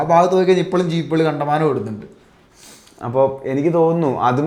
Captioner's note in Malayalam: ചീറ്റുന്നു